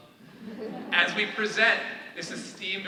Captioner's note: all laughing